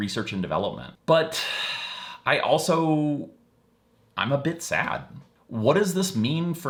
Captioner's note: sighing